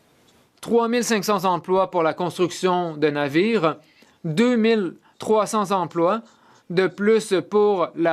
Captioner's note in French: voix de l'interprète